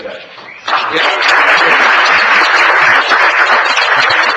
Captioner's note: applause